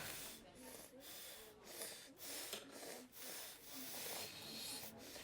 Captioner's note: soft chattering